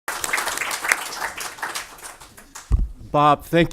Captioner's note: audience applause